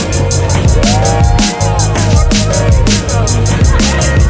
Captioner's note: people cheering